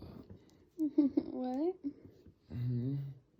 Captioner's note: laughs